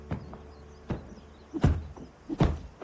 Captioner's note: thudding